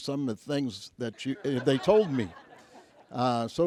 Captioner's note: audience laughs